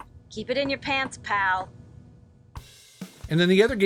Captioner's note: female Voice In Game